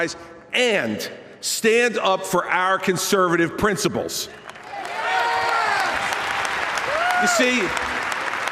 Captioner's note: applause